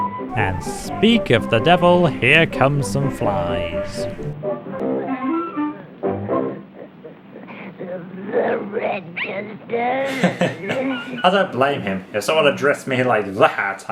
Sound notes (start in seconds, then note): 10.0 chuckles